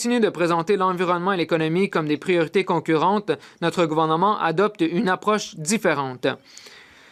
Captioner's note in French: voix de l'interprète